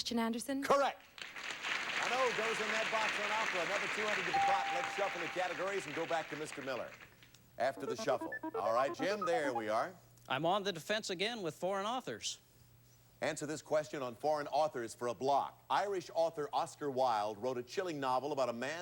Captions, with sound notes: Hans Christian Andersen. Correct! [audience applauding] An O goes in that box on Opera. Another $200 to the pot. And let's shuffle the categories and go back to Mr. Miller. After the shuffle. Alright, Jim, there we are. I'm on the defense again with Foreign Authors. Answer this question on Foreign Authors for a block. Irish author Oscar Wilde wrote a chilling novel